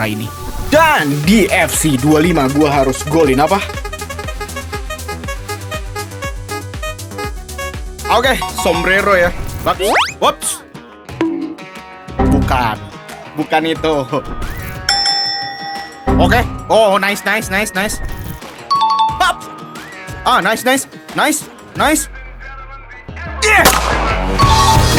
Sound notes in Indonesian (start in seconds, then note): 14.8 lonceng